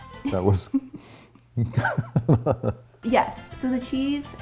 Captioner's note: both laugh